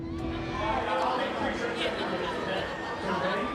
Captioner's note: Conversando animadamente